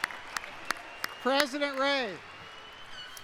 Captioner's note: applause